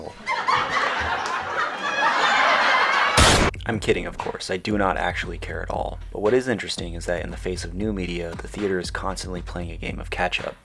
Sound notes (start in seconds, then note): 3.2 gunshot